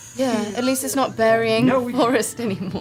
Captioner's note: cracks up